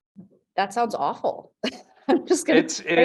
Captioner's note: chuckles